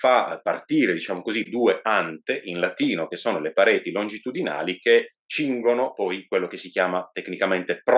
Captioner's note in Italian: in latino